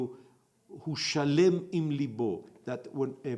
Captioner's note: in Hebrew